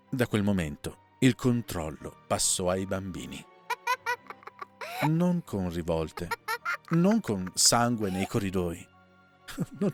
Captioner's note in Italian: risate